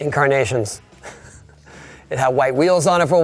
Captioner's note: laughing